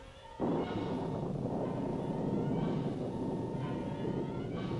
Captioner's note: electronic beeping; thunder rumbling